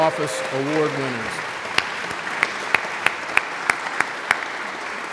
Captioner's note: audience applauds